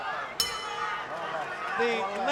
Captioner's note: bell ringing